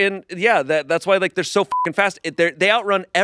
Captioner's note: beep